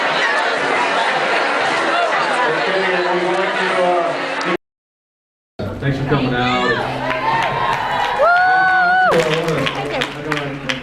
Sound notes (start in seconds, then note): 7.0 applauds; 9.9 cheers, applauds